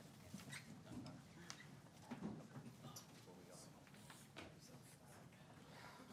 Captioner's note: people chattering faintly